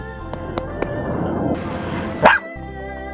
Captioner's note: dog barks